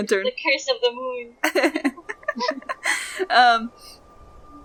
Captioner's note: laughs